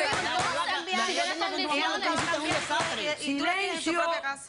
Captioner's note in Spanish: martillazos